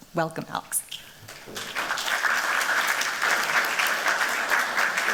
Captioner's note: applause